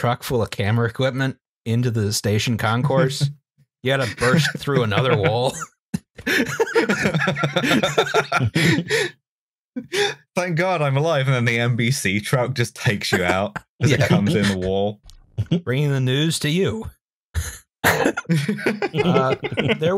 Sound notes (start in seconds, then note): 6.0 laughs; 6.0 laughter; 17.9 laughter